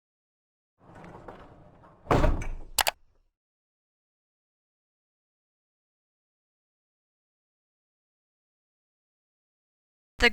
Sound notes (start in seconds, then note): 0.8 clanking; 2.7 clicking